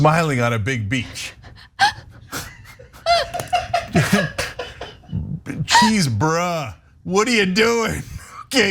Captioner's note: laugh